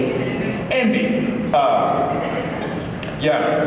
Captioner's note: laughs